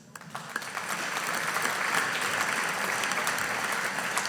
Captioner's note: audience applauding